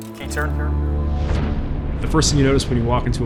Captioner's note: missile blasting